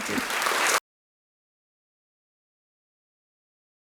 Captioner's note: applause